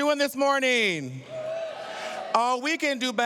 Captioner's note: cheering